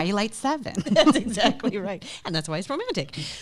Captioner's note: both laughing loudly